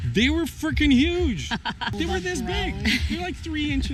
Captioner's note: laughing